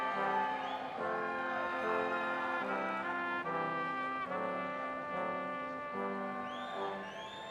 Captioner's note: crowd cheering